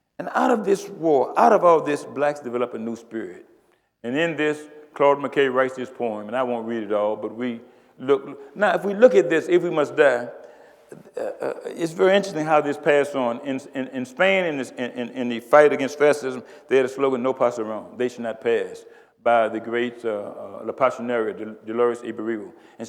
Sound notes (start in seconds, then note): 17.3 speaks Spanish